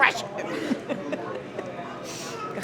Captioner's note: laughter